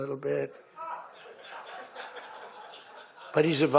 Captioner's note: laughter